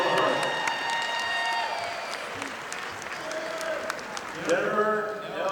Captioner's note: audience applauding